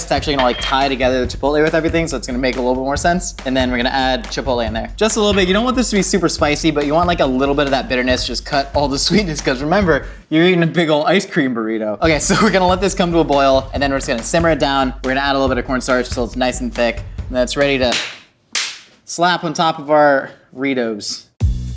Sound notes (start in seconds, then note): 17.6 slaps; 21.5 upbeat music